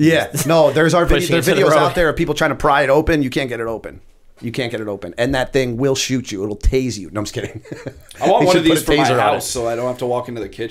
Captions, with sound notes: 33:56 Yeah. No. There are videos out there of people trying to pry it open, you can't get it open, you can't get it open and that thing will shoot you, it'll tase you. No, I'm just kidding. They should put a taser on it. [chuckle] 34:05 I want one of these for my house, so I don't have to walk into the kitchen.